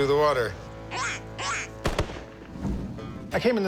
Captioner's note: duck noises, gunshot